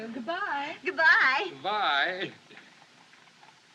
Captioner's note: chuckling